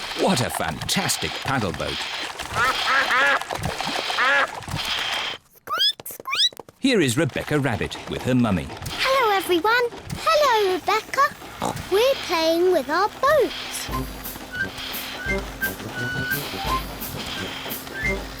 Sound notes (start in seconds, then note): 2.4 ducks quack; 5.4 squeaks